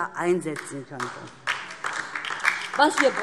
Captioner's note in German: Beifall DIE LINKE